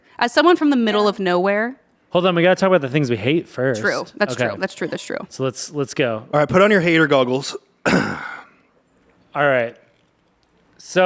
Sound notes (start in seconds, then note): 7.8 clears throat